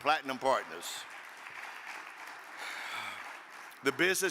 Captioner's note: audience applaud